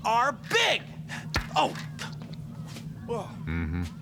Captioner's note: grunts